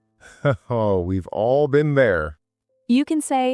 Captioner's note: laughing